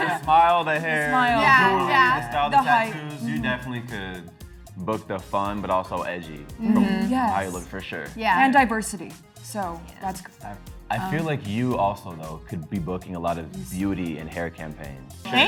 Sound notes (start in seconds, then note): 6.9 all mumble in agreement